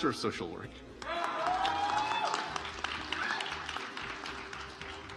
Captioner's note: audience applauds